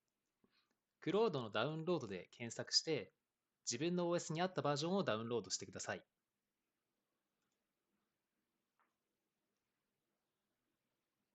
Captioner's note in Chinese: 九秒停顿